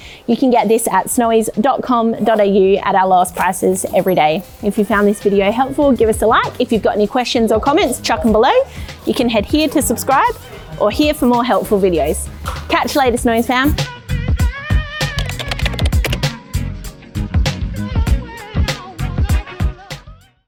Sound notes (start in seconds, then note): 14.0 upbeat music; 15.1 keyboard clattering